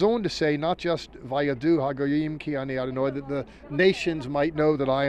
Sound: speaking in Hebrew

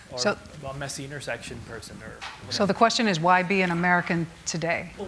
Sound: none

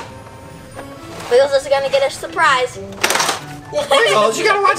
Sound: laughs

